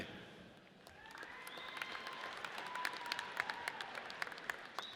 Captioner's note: audience cheers